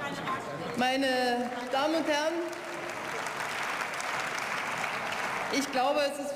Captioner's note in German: Beifall